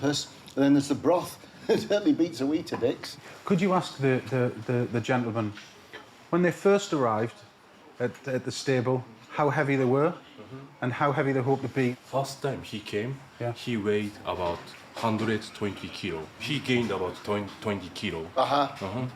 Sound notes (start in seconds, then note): 1.6 chuckling; 5.0 stutters